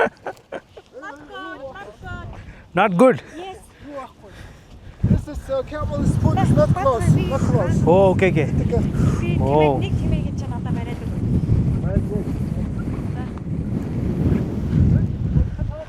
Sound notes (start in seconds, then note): 0.0 laughter